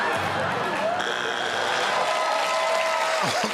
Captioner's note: buzzer; cheers and applause